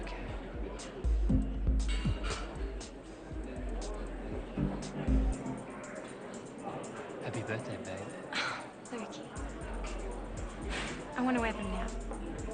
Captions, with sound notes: (people mumble and chatter in the background) Happy birthday, babe. - (exhales loudly) Lukey. I wanna wear them now.